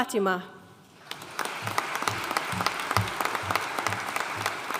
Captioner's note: audience applauding